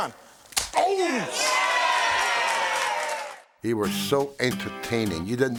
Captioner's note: applause